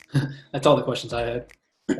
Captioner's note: gentle music; laughs